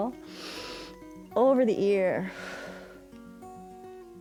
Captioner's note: inhales; exhales